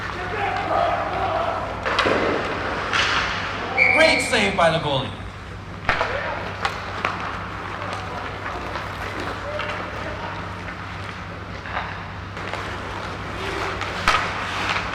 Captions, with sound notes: [team chattering] - Great save by the goalie. [hockey sticks clattering]